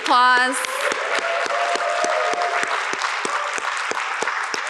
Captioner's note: audience clapping